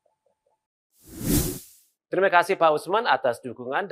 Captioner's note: non-english speech